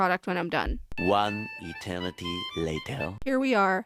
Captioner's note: french accented male narrator voice